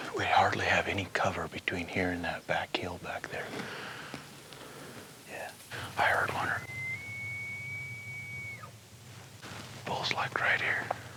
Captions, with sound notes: We hardly have any cover between here and that back hill back there. - Yeah, I heard one ear- (elk bugling) - Bull's like right here.